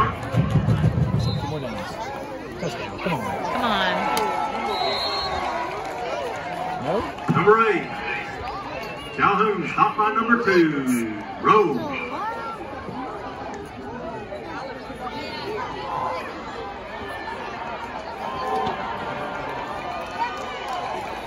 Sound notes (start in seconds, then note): 4.6 whistle blows; 11.7 crowd yelling/cheering